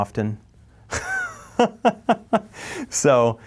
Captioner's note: laughs